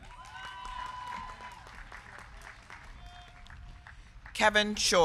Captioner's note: crowd cheering; crowd clapping